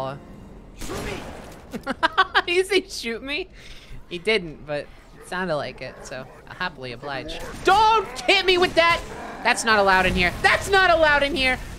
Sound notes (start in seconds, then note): 0.9 yelling that sounds like “shoo-me”; 1.7 laughing